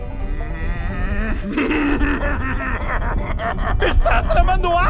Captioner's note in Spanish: Risa temblante